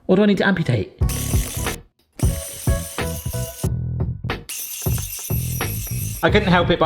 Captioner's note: headwhisk whirs; bright music